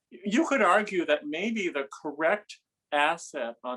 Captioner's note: none